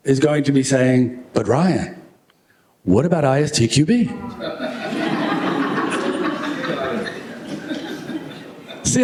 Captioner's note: laughter